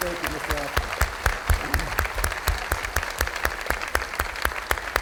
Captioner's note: audience applauding